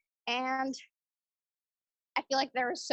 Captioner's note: 2 second pause